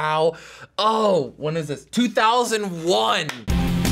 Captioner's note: claps; industrial intro